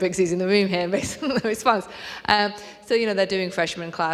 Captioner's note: chuckling